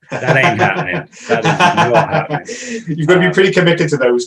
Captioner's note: laughing